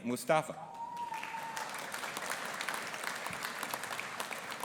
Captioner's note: audience applauding